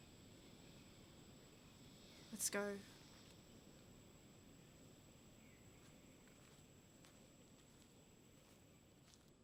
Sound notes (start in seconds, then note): 3.6 cicadas chirping